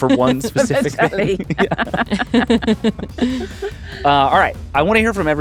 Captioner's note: laughing